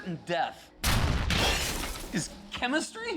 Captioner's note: explosions boom, glass shatters